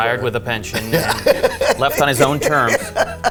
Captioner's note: laughs